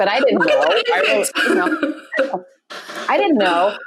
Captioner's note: laughs